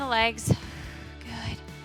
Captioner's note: exhales